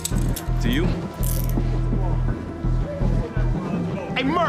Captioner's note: handcuffs locking